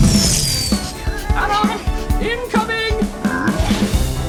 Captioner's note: over comms